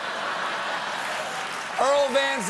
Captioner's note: laughter